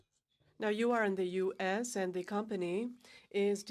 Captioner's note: speaking in french